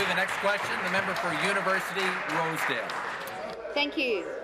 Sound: applause

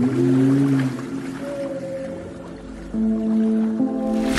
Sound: whale sounds

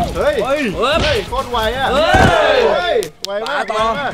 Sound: cheering

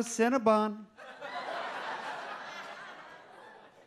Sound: audience laughs

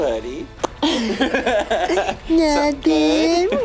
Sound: laughing

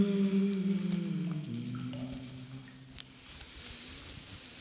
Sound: water dripping

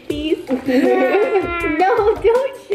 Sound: laughing

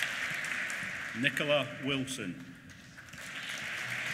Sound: applause

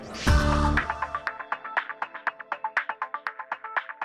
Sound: electronic tones

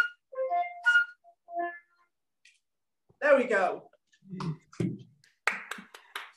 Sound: applause

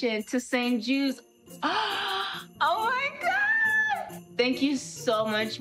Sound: gasping

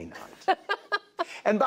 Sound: laughter

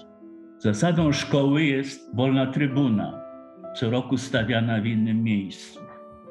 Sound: in polish

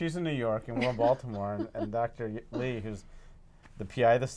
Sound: laugh

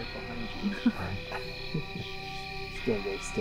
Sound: laughter

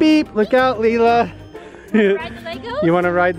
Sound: laughs

